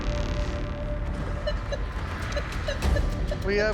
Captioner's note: device beeping